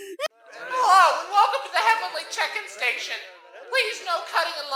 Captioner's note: on PA